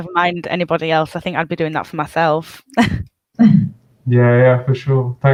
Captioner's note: chuckles